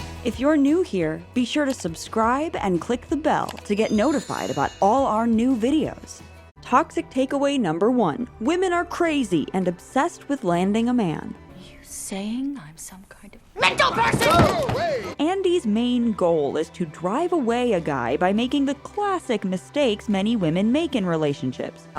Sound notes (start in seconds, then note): 13.3 yelling